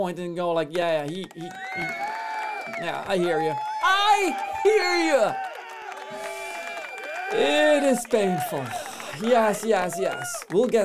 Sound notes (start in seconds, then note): 1.2 applause